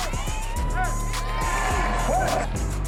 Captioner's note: crowd cheering; crowd drowns out announcer